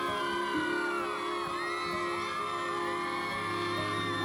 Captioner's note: gentle music; people screaming